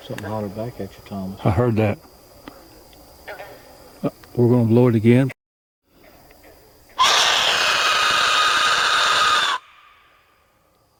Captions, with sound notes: - Something holler back at you, Thomas. - I heard that. We're gonna blow it again. [Loud screaming sound]